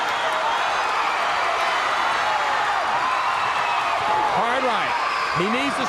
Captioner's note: crowd cheering